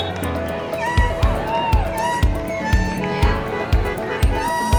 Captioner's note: air horn blows; horns honking